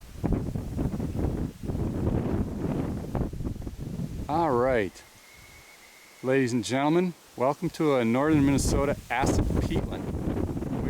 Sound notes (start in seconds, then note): 0.4 wind blowing